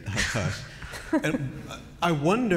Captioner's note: laughter